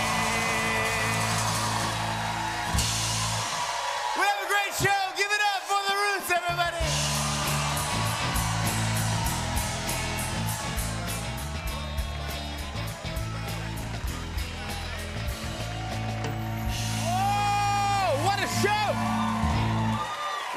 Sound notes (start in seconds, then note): 1.7 cheers and applause; 7.1 cheers and applause